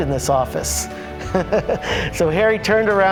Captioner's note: laughing